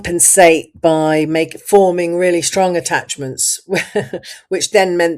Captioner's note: laughs